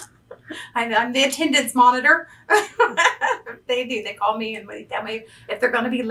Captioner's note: laughs